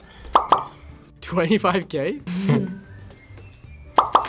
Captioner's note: both laugh